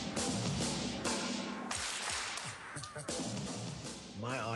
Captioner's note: clapping